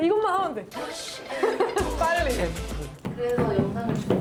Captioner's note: thump / Thump